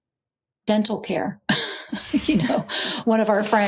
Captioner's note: laughs